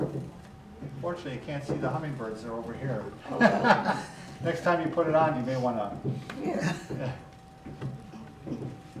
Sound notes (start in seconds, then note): 3.3 laughs